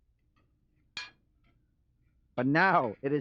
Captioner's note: utensils tapping on plates